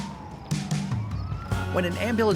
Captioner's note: light upbeat music; siren blaring